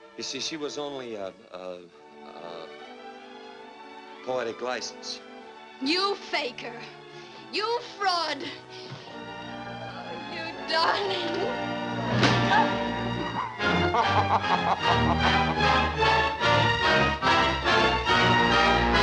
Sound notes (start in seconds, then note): 13.8 laughter; 15.4 triumphant music